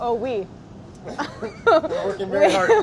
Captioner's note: laughter